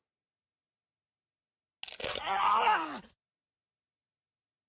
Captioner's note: tendons tearing